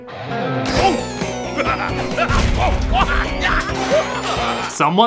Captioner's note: laughing